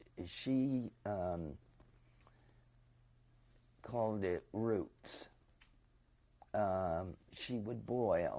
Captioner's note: pauses for 3 seconds